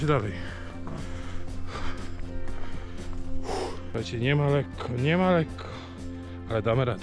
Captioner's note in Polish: wzdychanie